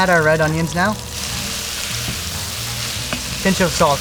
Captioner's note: food sizzling